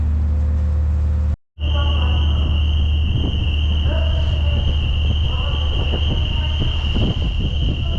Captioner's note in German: Autolärm. Ein normales Phänomen auf den Fähren